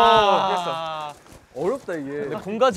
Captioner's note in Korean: 호다닥